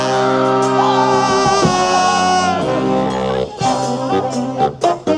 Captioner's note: band member screams